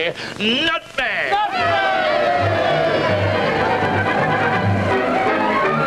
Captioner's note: cheering